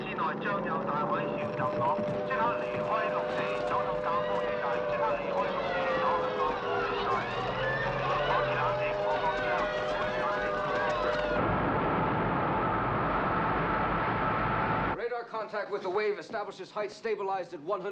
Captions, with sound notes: [ Panicked Chattering, Screaming ] RADAR CONTACT WITH THE WAVE ESTABLISHES HEIGHT STABILIZED AT 100 FEET PLUS.